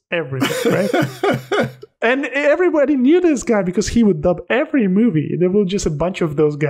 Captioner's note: laughter